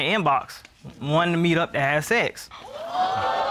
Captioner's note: audience exclaims